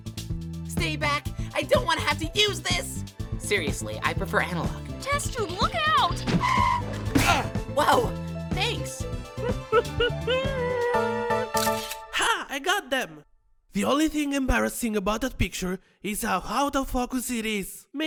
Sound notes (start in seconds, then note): 9.4 goo grunts; 11.6 camera snap